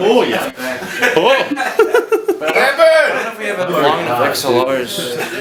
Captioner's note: people talking and laughing